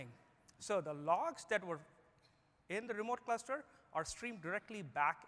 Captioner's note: speaking German